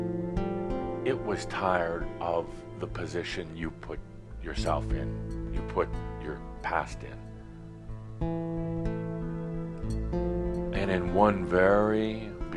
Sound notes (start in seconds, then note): none